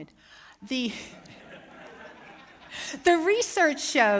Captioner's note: laughter